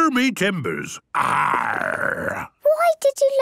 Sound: menacing voice; he growls

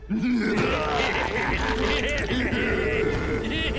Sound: ogres laugh

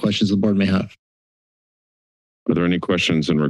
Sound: silence

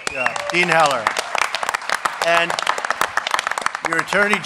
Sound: applause

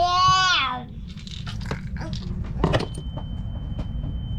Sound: shouts

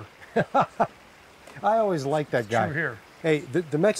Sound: laughter

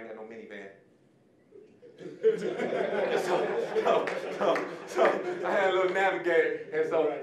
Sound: audience laughing

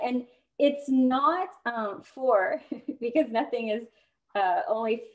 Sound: laughter

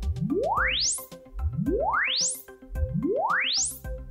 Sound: repeating sweep tone playing

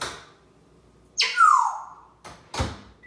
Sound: whistling

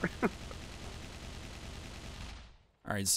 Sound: mech Gunshots

